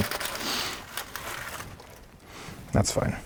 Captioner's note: leaves crunching softly